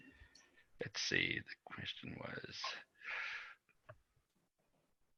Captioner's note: quieter